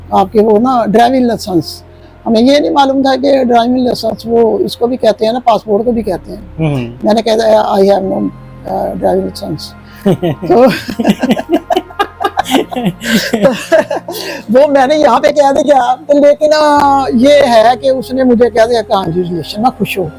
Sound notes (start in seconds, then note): 9.9 laughter